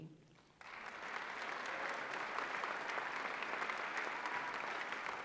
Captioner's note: applause